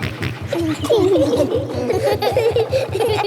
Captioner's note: echoes; snorts; kids laughing